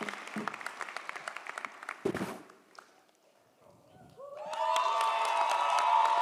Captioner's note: audience applauds; audience cheers; audience applauds